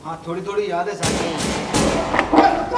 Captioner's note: gunshot